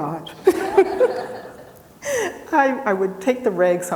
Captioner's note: people laughing